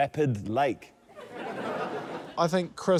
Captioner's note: laughter